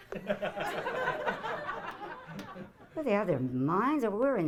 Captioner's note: audience laughing